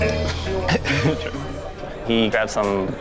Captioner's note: coughs